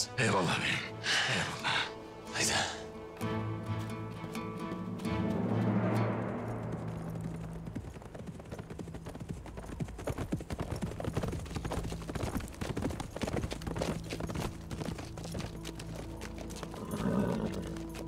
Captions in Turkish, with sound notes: Eyvallah Beyim, eyvallah. Haydi. (At nalı sesi) (At kişneme sesi)